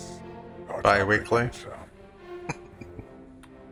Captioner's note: chuckling